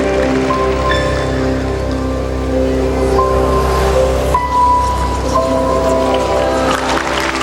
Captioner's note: applause